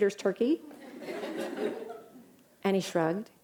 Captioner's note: laughter